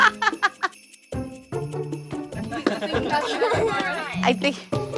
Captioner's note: laughs; laughter